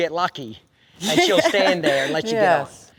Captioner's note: laugh